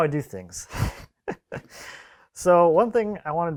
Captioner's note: man laughs